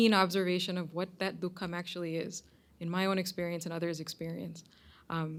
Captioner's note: hindi